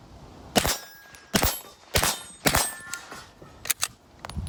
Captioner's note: gun bangs